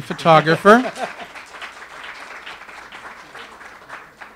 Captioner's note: audience applause